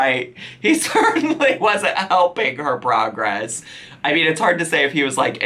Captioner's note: laughing